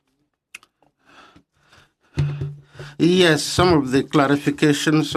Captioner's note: speaking French